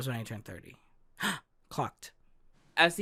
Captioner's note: gasp